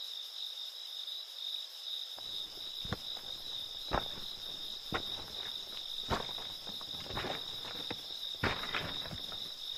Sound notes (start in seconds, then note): 2.2 pebbles crunching